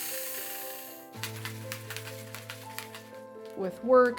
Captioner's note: tool buzzing; container clattering